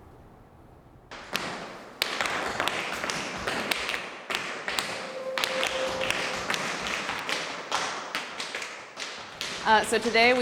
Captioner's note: tap dancing